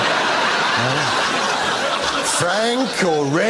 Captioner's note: audience laughs